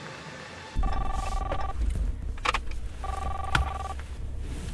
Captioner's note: cellphone ringing